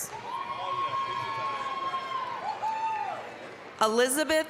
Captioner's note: applause, cheering